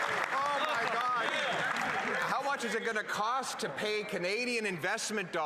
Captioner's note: applause